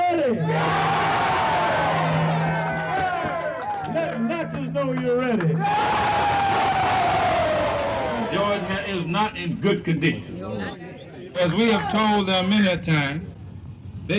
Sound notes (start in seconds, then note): 2.8 cheering; 5.3 cheering